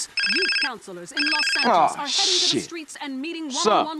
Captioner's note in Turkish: Telefon çalar